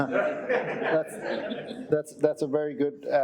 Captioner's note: chuckling; audience chuckling